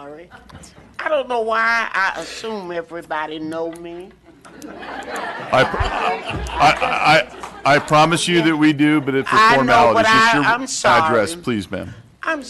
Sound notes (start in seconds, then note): 6.2 laughter